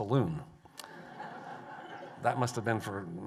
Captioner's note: laughter